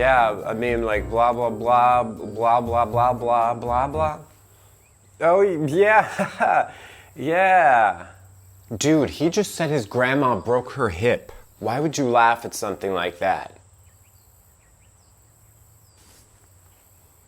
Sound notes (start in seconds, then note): 5.6 laughing